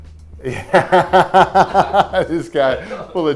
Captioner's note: laughs